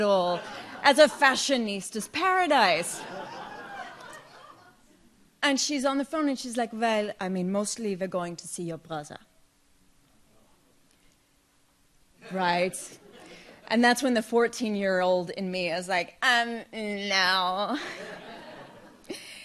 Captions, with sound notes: as a fashionista's paradise. (audience laughs) And she's on the phone, and she's like, well, I mean, mostly we're going to see your brother. Right? And that's when the 14-year-old in me is like, um, no.